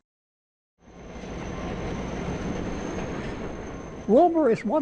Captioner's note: diesel train engine roars